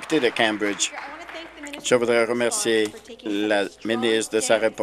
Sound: applause

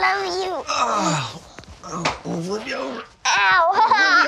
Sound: groans

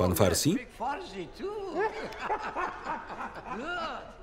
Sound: laughing

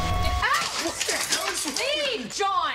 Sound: plate shatters

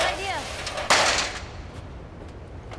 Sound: ladder clatters

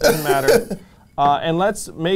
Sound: laughs

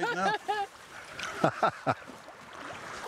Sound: all laughing; water whirling

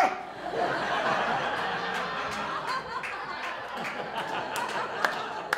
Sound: audience laughing and clapping

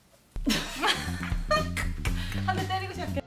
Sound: laughing

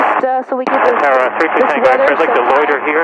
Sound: static

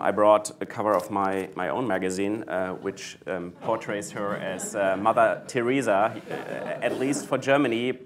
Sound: laughter

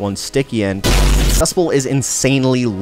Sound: ammo blasts

